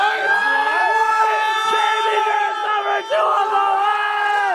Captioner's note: yelling and cheering